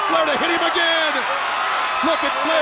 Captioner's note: crowd cheering